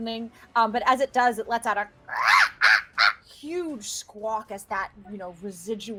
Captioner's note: squawking